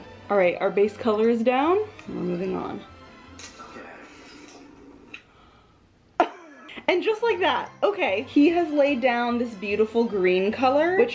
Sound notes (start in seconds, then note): 6.2 laughs loudly